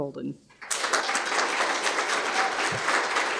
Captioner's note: applause